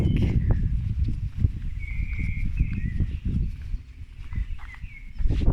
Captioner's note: birdsong & wind